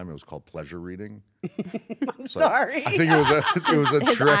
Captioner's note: laugh